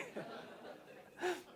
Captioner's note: laugh